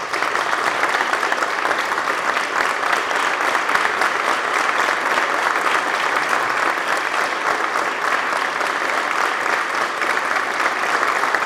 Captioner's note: applause